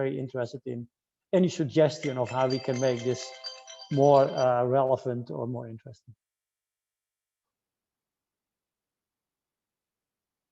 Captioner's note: chime sounds